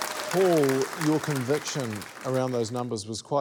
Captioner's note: cheering, applause